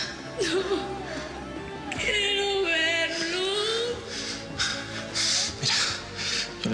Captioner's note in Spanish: Sollozos